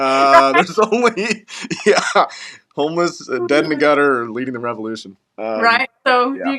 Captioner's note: laugh